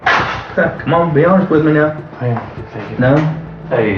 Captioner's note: door opens